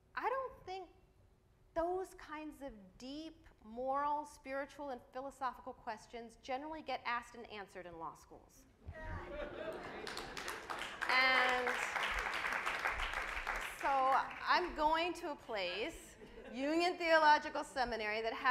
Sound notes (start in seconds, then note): 9.0 audience laughs; 9.5 audience applauds